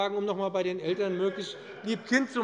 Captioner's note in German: Lachen der Abg